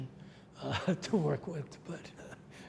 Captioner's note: laughs